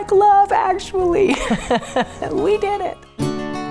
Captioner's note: laughing; upbeat guitar music